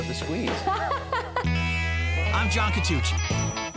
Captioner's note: laughs